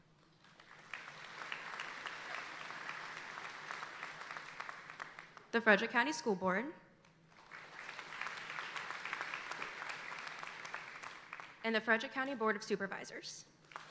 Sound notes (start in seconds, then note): 0.4 audience applauding; 7.3 audience applauding